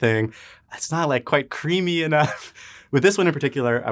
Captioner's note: laughs